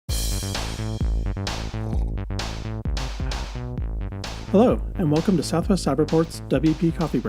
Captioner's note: slurp